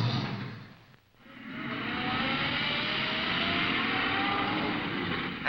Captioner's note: engine starting; traffic passing